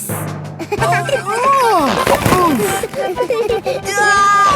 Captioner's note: giggling; grunting; giggling